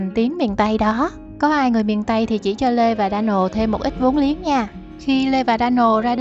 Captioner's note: local language